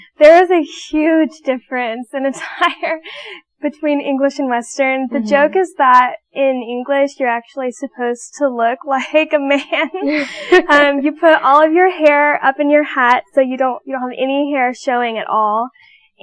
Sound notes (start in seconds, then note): 9.9 laughing